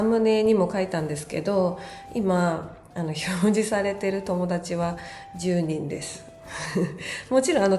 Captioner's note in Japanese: 息をのむ音